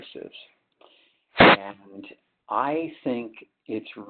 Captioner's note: sliding static